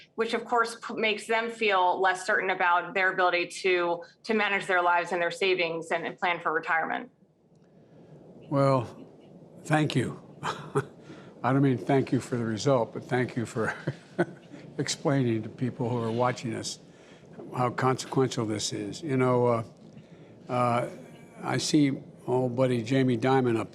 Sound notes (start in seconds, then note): 10.2 laughs